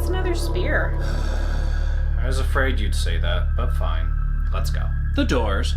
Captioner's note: sighs heavily